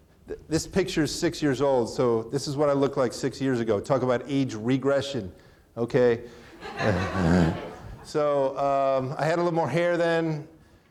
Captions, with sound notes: This picture is six years old so this is what I look like six years ago. Talk about age regression. (chuckles) (audience laughing) So I had a little more hair then.